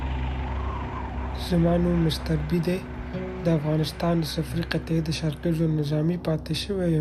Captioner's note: speaking foreign language